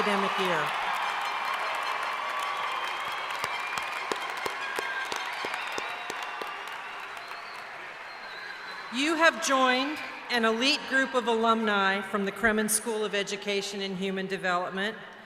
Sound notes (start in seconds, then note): 0.0 cheering